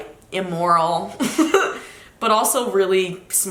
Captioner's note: laughs